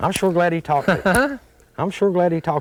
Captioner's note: laughter